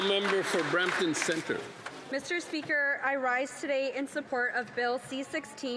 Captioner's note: some Applause